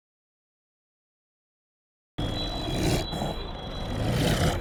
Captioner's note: creature snarling